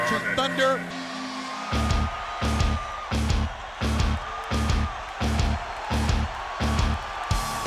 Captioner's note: crowd cheers; rock music plays